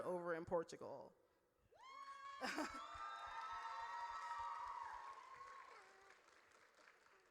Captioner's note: audience cheers